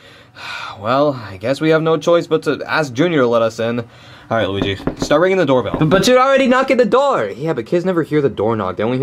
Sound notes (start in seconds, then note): 4.5 wood knocking